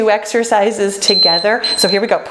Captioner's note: timer beeps